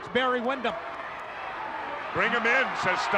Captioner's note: claps